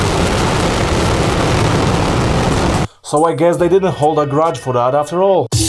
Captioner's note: rocket sound